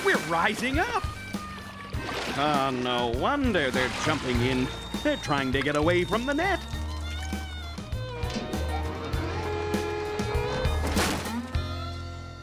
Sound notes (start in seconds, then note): 8.8 splashing